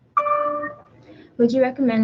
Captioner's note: computer dings